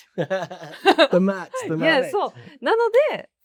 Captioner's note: laughs